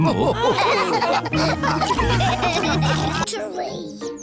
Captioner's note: all laughing